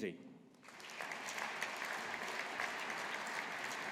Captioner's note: audience applauding